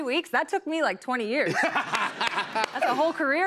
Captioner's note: laughter